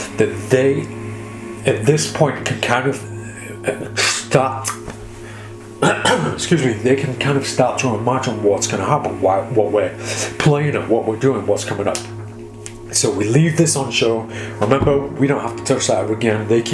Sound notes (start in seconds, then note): 5.7 coughing